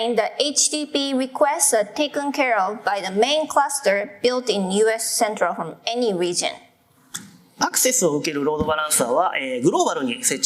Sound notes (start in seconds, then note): 8.3 speaking japanese